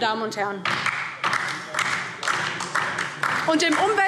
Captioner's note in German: Beifall DIE LINKE